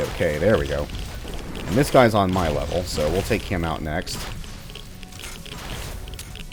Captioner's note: hiss